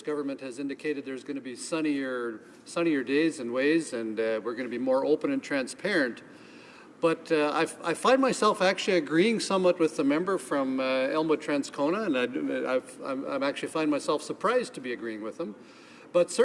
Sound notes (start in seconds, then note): none